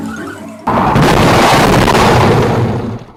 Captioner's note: crashes